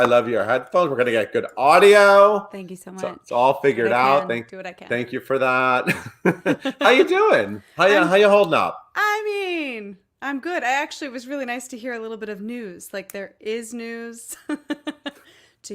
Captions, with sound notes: I love your headphones, we're gonna get good audio. - Thank you so much - It's all figured out. - I do what I can. I do what I can. - Thank you for that. (both chuckling) How ya doin', how ya holdin' up? - I mean, I'm good. Actually, it was really nice to hear a little bit of news. Like there is news (laughs)